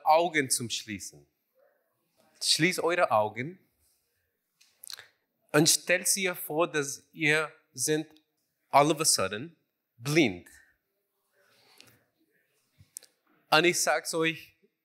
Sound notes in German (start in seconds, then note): none